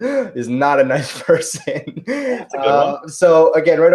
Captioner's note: laughs